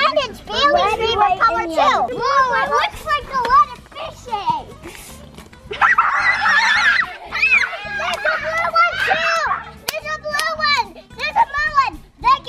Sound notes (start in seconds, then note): 5.8 screeching; 8.0 clapping